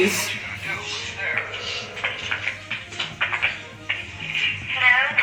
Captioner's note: radio chatter